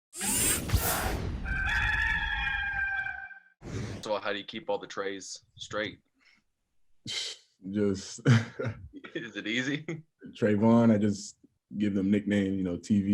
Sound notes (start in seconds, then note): 1.4 rooster crowing